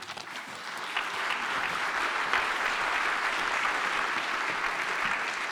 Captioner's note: audience applauding